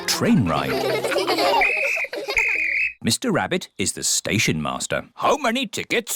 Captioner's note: blows whistle